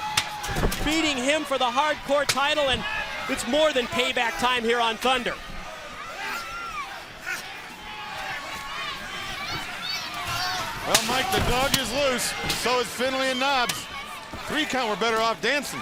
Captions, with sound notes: UPSET, BEATING HIM FOR THE HARDCORE TITLE. AND IT'S MORE THAN PAYBACK TIME HERE ON THUNDER. >> [CROWD CHATTER] >> WELL, MIKE, THE DOG IS LOOSE, SO IS FINLAY AND KNOBBS.